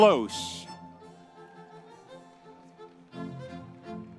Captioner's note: audience cheering; upbeat music continues